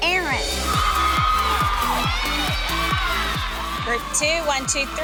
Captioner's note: ladies cheering